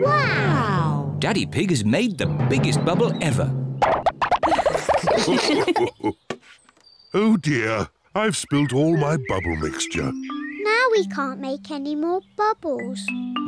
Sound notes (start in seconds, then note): 4.4 all laugh